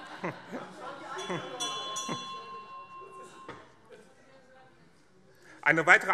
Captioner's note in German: Heiterkeit BÜNDNIS 90/DIE GRÜNEN - Anhaltende Unruhe - Glockenzeichen